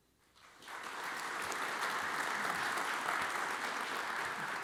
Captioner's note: audience applauds